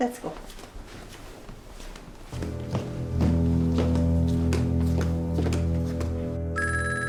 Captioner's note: footsteps pattering; suspenseful dramatic music; phone rings